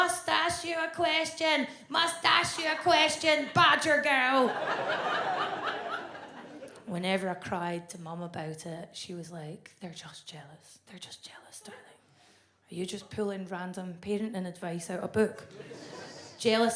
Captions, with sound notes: "Mustache you a question. Mustache you a question, badger girl." (audience laughs) Whenever I cried to Mum about it she was like, '"They're just jealous. They're just jealous, darling." "Are you just pulling random parenting advice out a book?